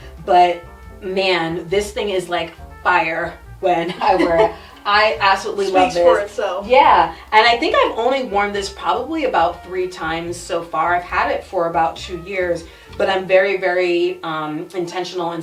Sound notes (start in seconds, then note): 3.8 chuckles